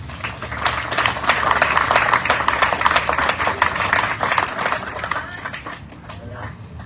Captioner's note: audience cheering, applauding